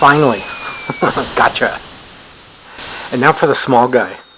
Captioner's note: chuckles